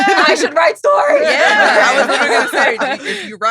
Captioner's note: all laughing